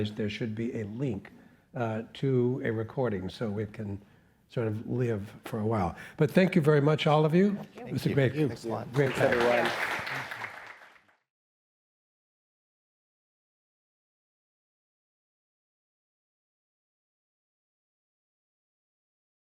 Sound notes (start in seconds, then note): 11.7 audience applauding